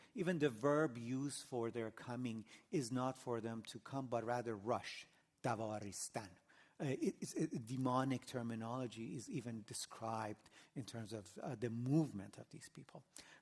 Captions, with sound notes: Even the verb used for their coming is not for them to come, but rather rush, [NON-ENGLISH]. Demonic terminology is even described in terms of the movement of these people.